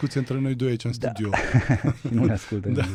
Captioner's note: laughter